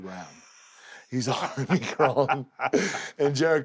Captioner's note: laugh